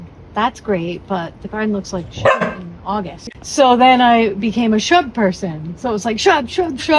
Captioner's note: woof